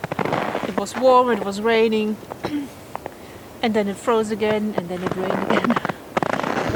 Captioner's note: laughs